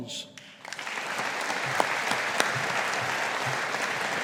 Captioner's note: audience applauding